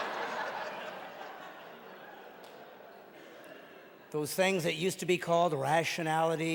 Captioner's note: audience laughing